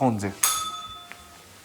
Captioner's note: bell rings